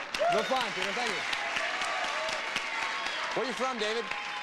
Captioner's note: audience cheering